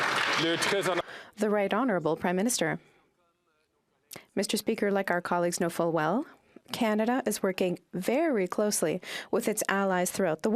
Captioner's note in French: applaudissements